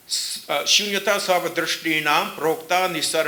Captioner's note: speaking sanskrit